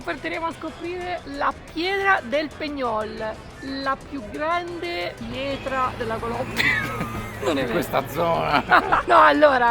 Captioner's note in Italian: risate